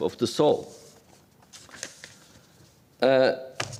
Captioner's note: paper rustles